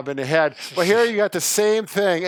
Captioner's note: laughing